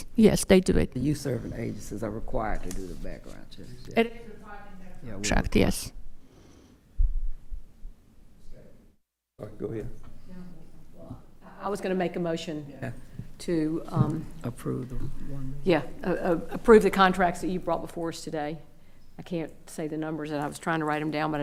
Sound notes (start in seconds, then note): 10.1 attendee speaking quietly